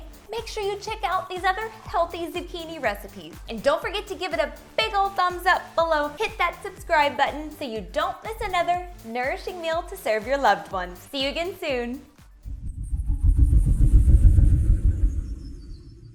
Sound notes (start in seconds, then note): 12.3 whooshing